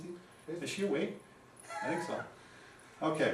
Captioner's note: chuckles